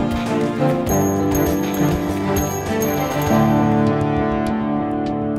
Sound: spurs jingling

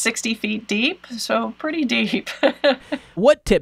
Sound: laughs

